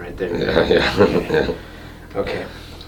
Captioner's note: chuckling